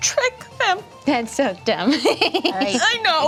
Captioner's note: giggles